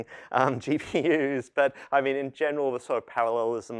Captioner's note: laughter